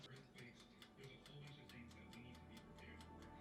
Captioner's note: timer ticking